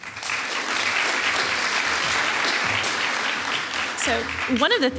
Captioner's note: applause